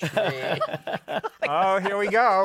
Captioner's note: laughter